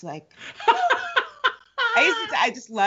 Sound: Brennan laughs

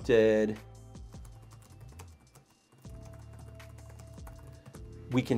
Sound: keyboard clacking

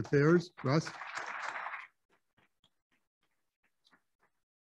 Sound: applauding

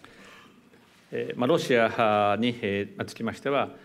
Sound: speaking japanese

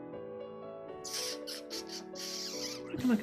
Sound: sucks in teeth

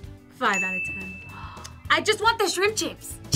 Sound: gasps

